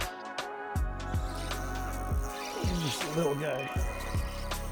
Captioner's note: reel whirring